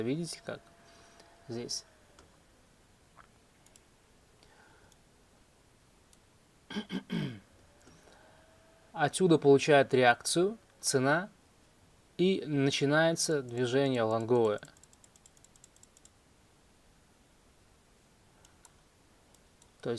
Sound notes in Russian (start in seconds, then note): 6.7 кашель; 6.7 откашливается